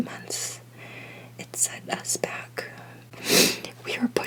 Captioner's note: sniff